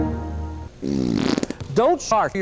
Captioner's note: Windows XP logoff sound; sharting sound